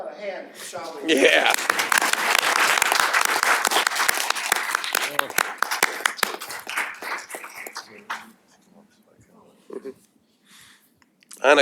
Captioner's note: applause